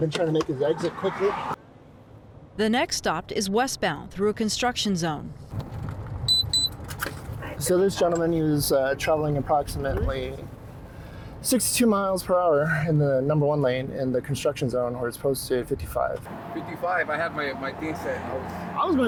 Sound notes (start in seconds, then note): 6.3 car beeps